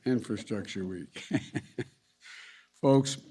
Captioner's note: laughs